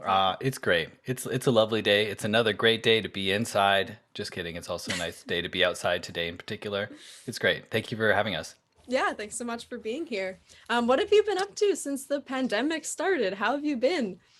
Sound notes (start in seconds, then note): 4.8 chuckles